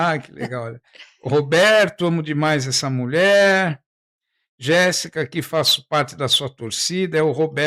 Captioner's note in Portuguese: risadas